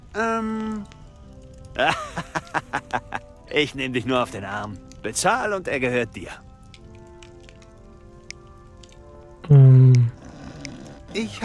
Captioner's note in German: gelächter